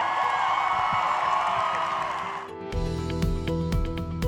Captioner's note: cheers and applause